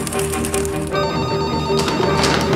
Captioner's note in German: Klingel ertönt